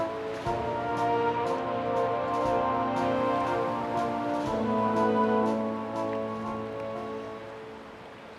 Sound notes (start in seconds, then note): 2.9 waves lapping; 6.1 music fades out